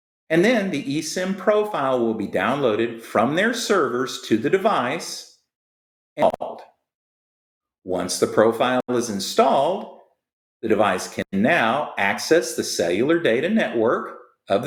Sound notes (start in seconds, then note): 6.2 audio glitches